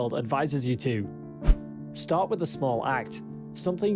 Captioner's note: screen swishes